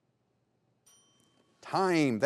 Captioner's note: bell tings